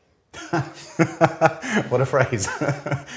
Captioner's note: laughter